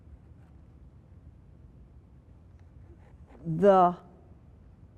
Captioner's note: none